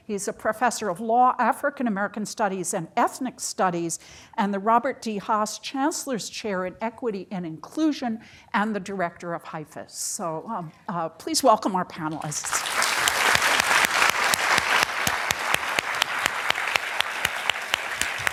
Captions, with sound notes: He's a professor of law African-American studies and ethnic studies and the Robert T. Haust Chancellor's chair in equity and inclusion and the director of Hyphus. So please welcome our panelists. (applause)